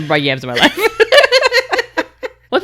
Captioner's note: laughing